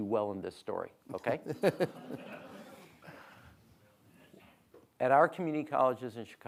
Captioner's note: audience laughing